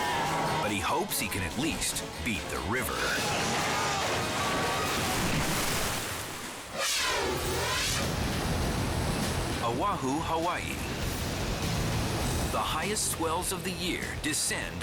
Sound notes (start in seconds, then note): 2.5 boat crashing; 3.2 water splashing; 6.6 air whooshes; 8.0 waves crashing